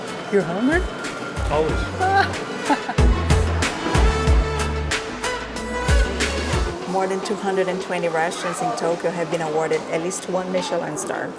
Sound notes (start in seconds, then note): 1.5 laughs